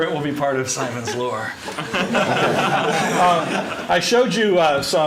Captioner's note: laughter